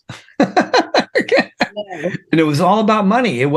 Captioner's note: laughs